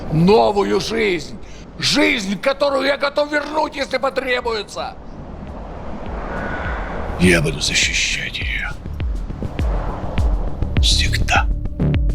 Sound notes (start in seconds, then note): 0.1 speaking russian; 7.2 speaking russian